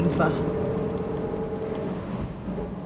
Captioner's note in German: Dumpfes Motorbrummen